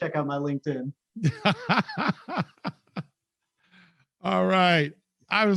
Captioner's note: laughs